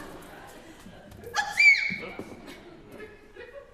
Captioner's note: LOUISE sneezes